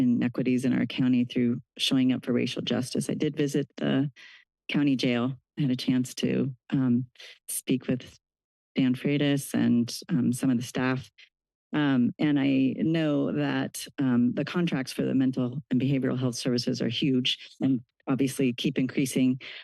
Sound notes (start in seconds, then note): none